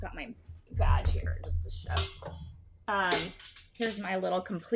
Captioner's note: metal clinking